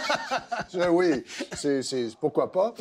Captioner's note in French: rires